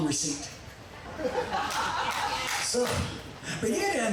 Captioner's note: audience laughing